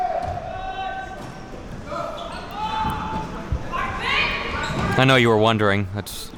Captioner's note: spectators shouting